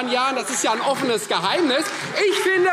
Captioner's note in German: Beifall Freie Demokraten und vereinzelt SPD